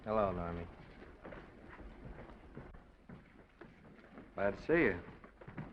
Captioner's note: footsteps receding